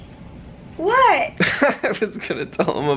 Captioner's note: chuckling